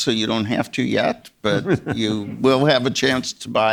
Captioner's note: Czerny chuckling